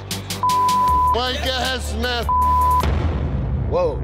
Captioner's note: beep